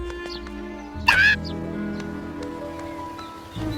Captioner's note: squawk